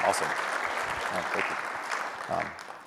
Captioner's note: applause